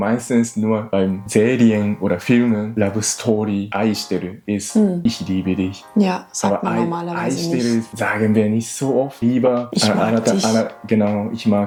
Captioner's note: laughs